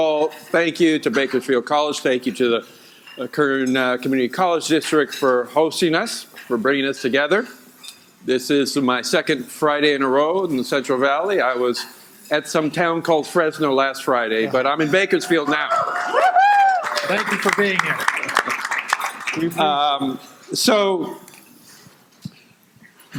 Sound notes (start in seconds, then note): 15.2 audience applauding